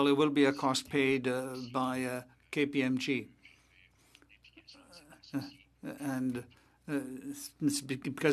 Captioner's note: speaking French